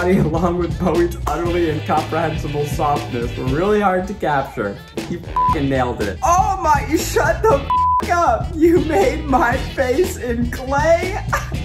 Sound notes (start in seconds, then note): 5.3 beep; 7.6 beep